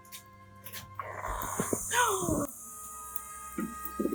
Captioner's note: gasp